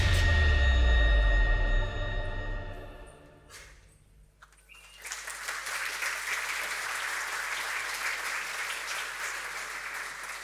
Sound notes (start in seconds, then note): 0.0 intense music; 4.4 audience clapping